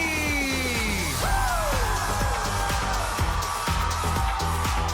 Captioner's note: audience cheering